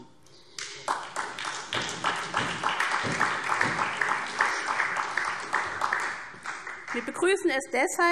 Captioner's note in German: Beifall SPD